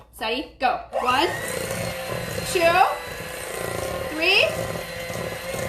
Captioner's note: mixer whirring